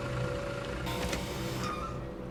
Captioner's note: door buzzer buzzes